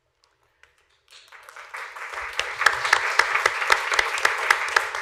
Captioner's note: applause